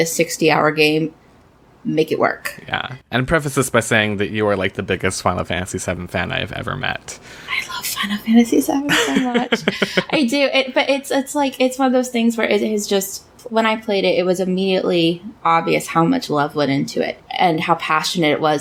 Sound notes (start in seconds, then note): 8.5 laughs